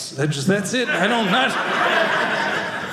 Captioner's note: audience laughing